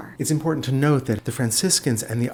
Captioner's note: voiceover